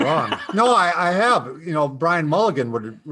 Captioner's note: laughs